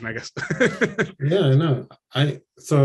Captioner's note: laughs